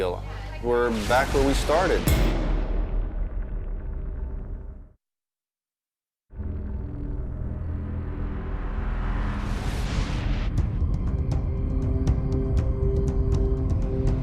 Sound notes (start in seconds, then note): none